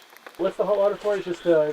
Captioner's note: frogs, crickets, and rain